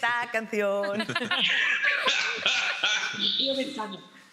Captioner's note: laughing